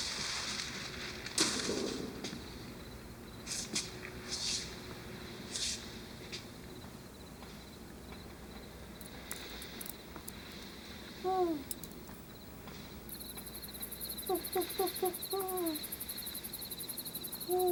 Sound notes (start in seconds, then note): 11.2 owl hoots; 13.2 crickets chirp; 13.3 owl hoots